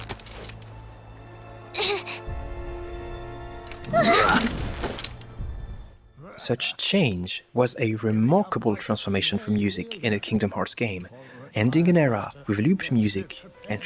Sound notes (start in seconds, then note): 1.6 battle grunt; 3.9 battle grunts